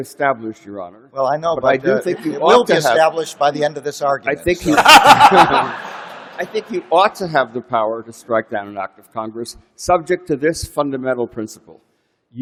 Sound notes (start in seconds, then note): 4.6 laughter